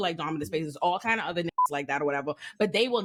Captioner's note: beep